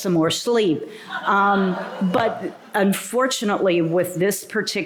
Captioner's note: laughter